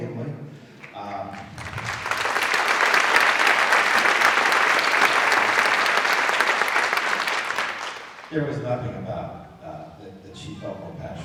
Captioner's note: applause